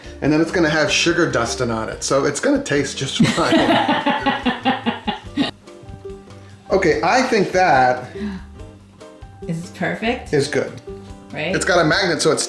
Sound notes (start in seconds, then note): 3.2 woman laughs